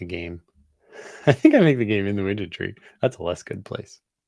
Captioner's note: laughs